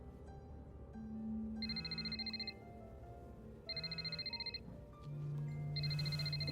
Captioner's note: phone ringing